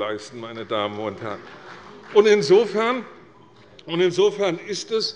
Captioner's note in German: Beifall bei Abgeordneten der CDU